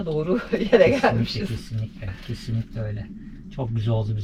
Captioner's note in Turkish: kahkaha